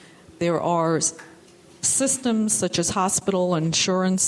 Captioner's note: none